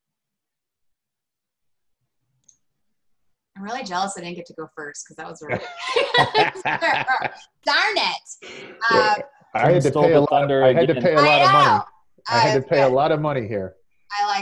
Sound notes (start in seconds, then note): 5.3 laughs